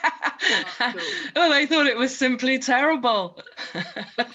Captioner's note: laughs